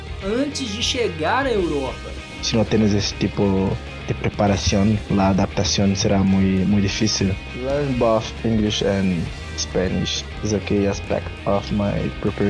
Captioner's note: endrick speaking in spanish and english